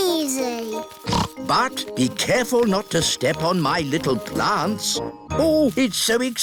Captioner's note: snorts